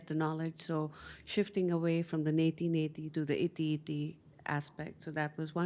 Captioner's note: hindi